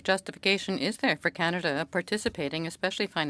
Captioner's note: speaking French